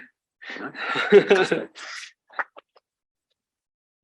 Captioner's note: laughing